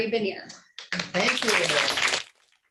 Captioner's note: clapping